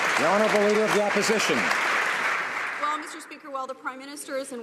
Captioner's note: some Applause